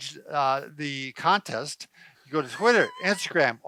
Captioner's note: chuckling